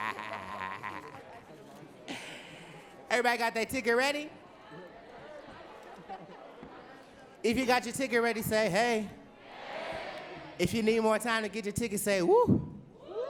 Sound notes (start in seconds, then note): 6.2 audience talking